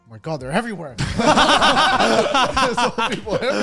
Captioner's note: everyone laughs